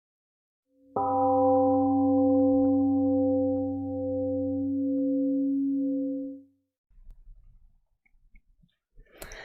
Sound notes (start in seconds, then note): 0.9 temple gong rings and fades 🎵